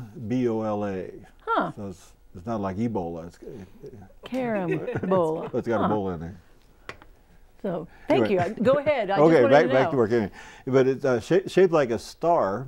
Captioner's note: laughing